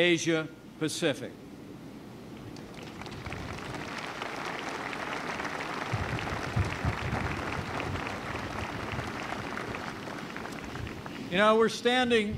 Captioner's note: applause